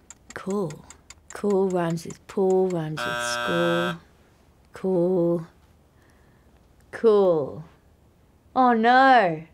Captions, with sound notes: Cool. Cool rhymes with pool, rhymes with school (buzzer sounding) Cool. Cool. Oh no.